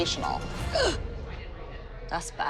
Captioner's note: gasps